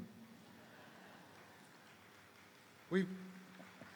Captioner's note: audience laughing; audience applauding